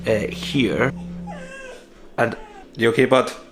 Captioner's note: dog cries